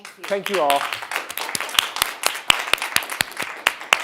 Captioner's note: audience members applauding